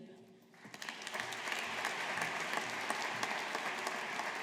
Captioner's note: audience applauding